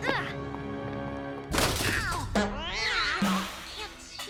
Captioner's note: cat yowls